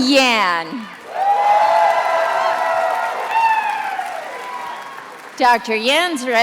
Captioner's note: attendees applauding and cheering